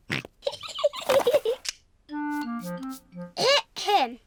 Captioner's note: snorts; giggling